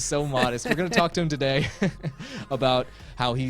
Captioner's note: laughs